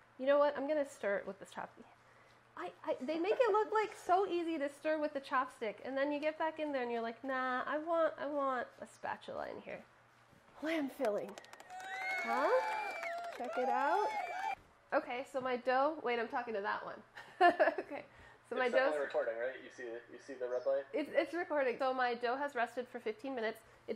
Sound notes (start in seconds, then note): 11.2 crowd cheering; 17.4 laughs